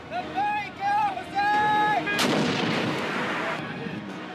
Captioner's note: shouting